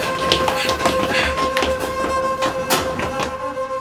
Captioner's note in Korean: 격렬한 발자국 소리